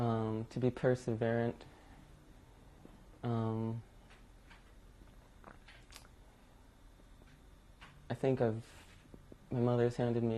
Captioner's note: pauses for 7 seconds